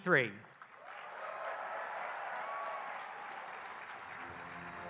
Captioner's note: audience applauding and cheering